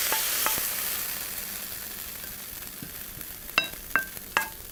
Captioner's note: pan clinking